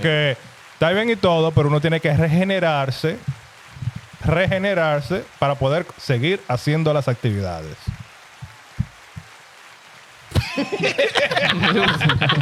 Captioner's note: laughing; speaking In Foreign Language